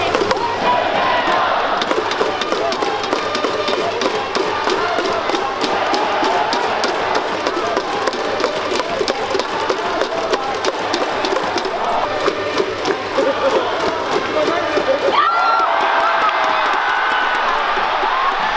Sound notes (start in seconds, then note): 3.0 cheering and music